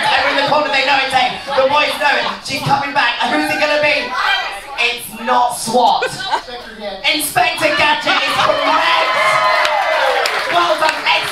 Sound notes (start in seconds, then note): 4.3 audience cheers